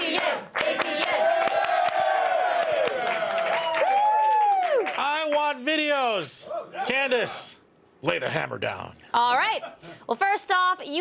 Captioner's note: applause